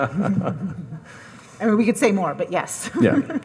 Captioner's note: laughs